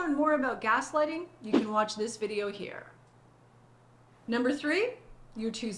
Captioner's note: air whooshing